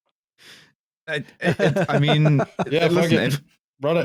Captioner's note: laughter